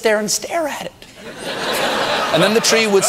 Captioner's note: audience laughter